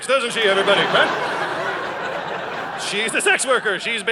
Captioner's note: audience laughing